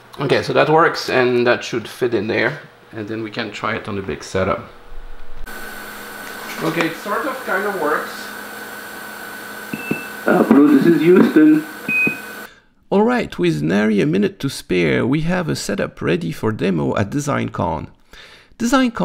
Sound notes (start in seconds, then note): 9.7 Quindar intro beep; 11.8 Quindar outro beep